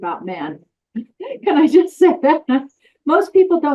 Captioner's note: laughs